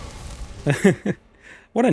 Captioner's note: resigned chuckle